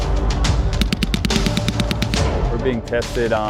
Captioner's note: weapon firing